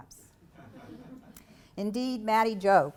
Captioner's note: laugter